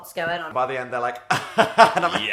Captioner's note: laughing